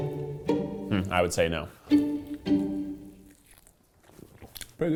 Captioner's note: humming